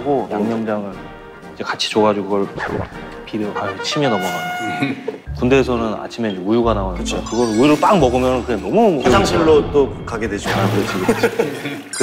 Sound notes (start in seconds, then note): 2.6 gulp